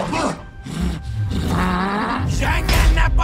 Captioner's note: growls